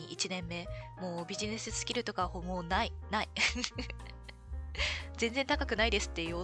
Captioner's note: laughs